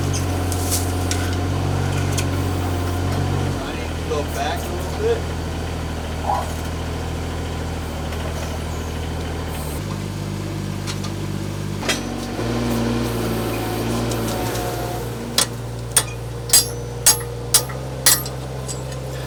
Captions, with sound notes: Go back a little bit. (engine humming) (hammer pounding)